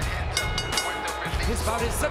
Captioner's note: bell ringing